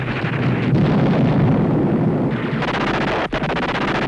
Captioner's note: explosion